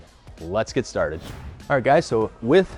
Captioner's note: whoosh